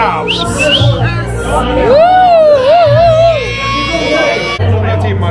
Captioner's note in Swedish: Publikens jubel